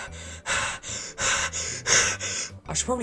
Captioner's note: hyperventilating